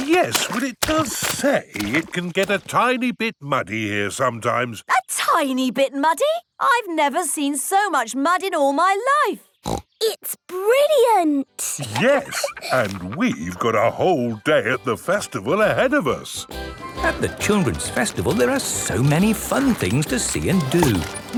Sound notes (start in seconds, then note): 11.6 laughs; 16.4 festival buzz and music